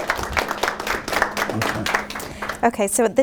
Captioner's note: applause